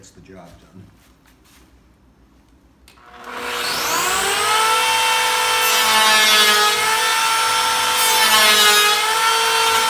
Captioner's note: planer Noise